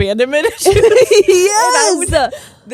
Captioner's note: both laughing